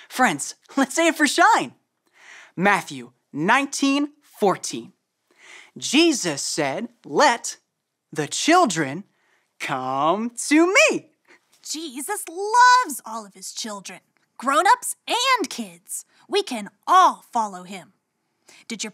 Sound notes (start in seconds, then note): none